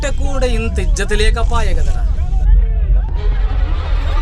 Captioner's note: mob chanting 'Hail Telangana'